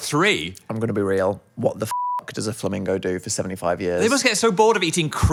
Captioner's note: beep